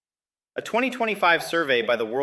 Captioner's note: none